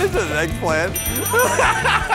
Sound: ding!; laughs

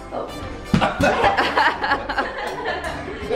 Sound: laughs

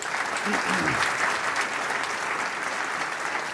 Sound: applause

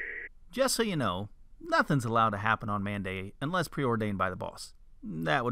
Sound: loud echo voice; man's voice

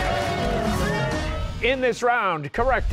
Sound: cheers and applause

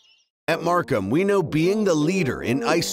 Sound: voiceover

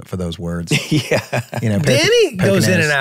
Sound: laughing

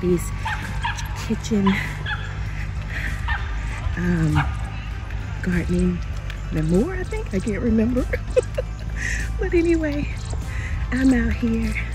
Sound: laughing

